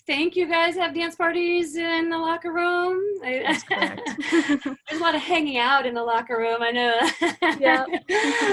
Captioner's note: laughter